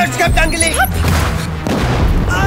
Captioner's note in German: Schuss